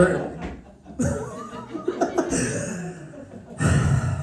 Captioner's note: laughter